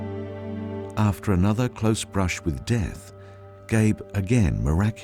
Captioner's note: voiceover